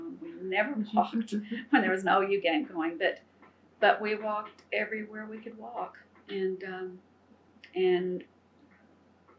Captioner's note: laughter